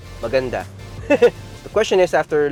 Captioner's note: chuckles